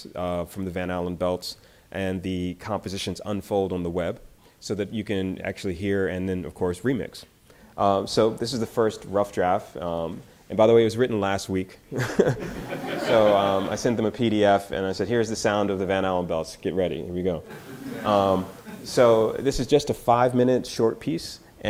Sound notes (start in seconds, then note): 12.0 laughs; 12.0 audience laughter; 17.4 audience laughter